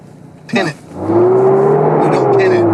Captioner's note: engine revving